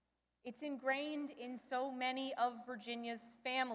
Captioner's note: none